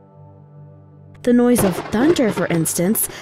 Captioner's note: thunder crashing